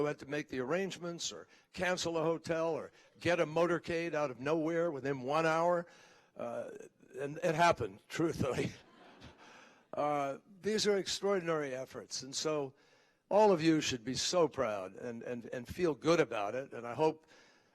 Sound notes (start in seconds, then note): 8.8 laughter